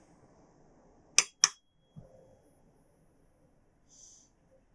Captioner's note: tuning fork clicks